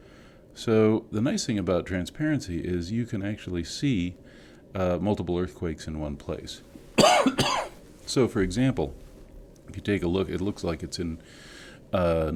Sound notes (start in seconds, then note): 6.9 cough